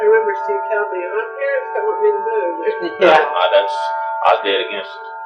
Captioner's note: clock dinging in the background